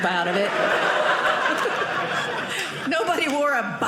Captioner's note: audience laughing